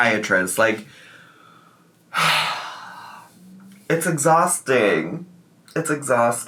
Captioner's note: sighs